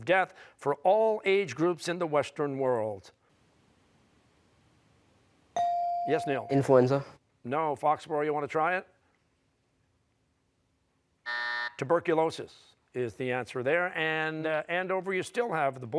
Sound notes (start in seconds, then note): 11.2 buzzer